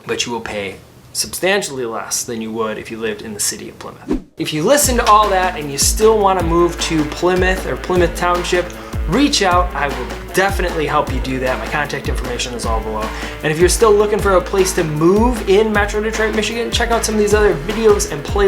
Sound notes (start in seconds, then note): 4.0 graphics whoosh; 6.4 upbeat music